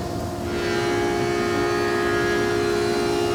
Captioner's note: whirring